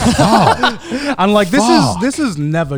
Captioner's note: laugh